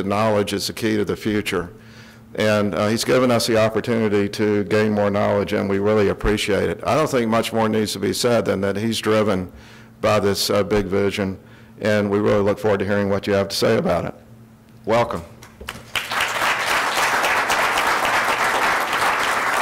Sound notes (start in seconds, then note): 15.6 audience applauds